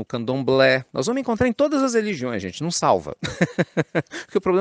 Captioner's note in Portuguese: Risos